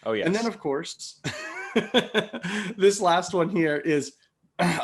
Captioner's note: laughs